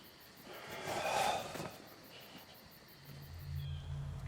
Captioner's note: Scott sighs; ominous music